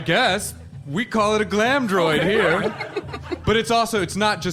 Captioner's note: audience laughter